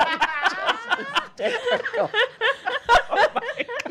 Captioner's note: laughter